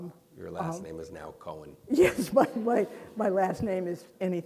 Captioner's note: laughs